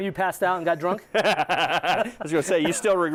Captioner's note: laughs